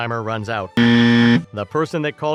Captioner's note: buzzer sound